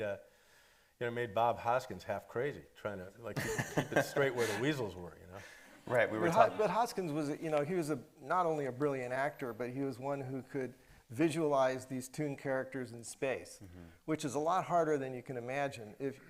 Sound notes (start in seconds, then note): 3.4 laughing